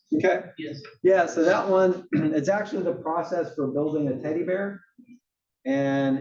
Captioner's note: cough